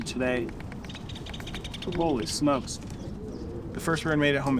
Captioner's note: birds chirping